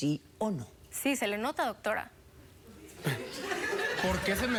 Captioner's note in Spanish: risas del público